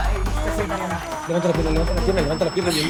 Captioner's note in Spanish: Quejidos